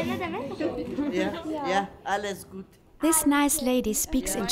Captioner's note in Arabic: بالتركية; بالألمانية